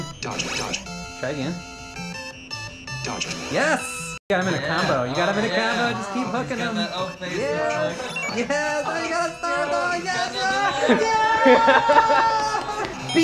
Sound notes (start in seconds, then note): 0.2 computer Voice; 2.5 computer Voice; 8.0 everybody cheering; 9.8 laughs